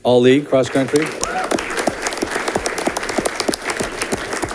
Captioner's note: audience clapping